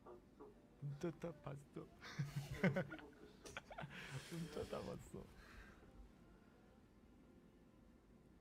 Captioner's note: laughs